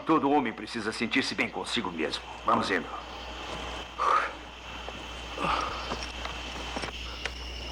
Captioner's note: sighs